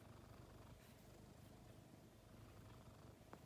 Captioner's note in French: Ronronnement doux